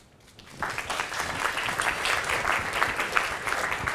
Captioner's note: applause